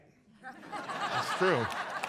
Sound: audience laughs

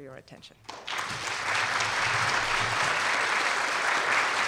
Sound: audience applauding

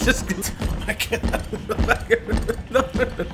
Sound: laughing

